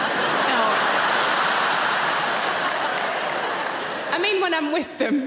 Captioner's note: audience laughing